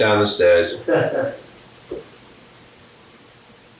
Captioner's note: laughing